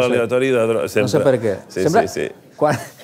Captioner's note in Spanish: risas